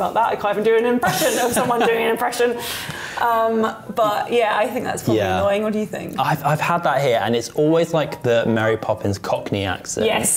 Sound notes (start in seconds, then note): 1.0 laughs